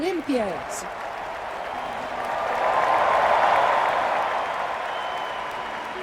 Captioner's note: cheering